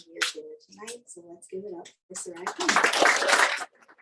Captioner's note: applause